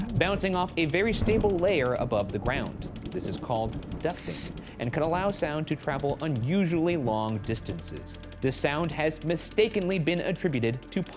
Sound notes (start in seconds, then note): 2.9 thunder rumbles